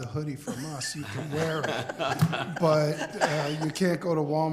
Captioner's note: group laughter